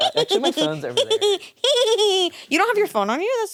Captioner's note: giggles